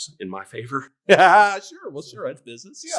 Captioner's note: laughter